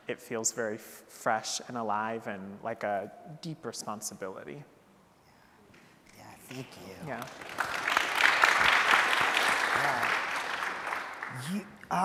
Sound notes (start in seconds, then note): 7.1 audience applauding